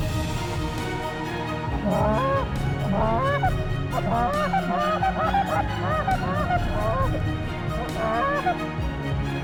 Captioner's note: goose calls